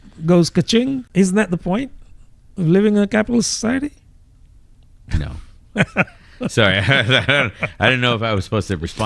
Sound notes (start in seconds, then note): 5.0 uh